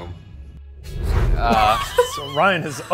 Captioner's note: laughs